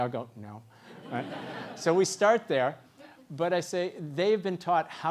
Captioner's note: laugh